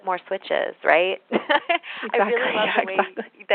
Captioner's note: laughter